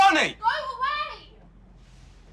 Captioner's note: Avani shouting